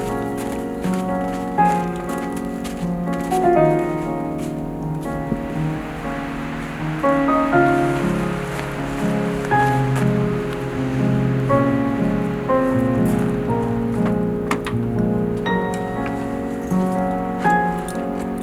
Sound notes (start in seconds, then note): 13.9 vehicle door opening